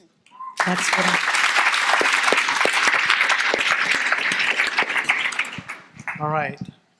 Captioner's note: audience applauding